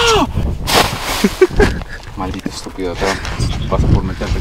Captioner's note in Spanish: Papel Arrugandose; ^risas